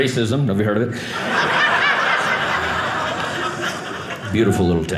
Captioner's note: audience laughing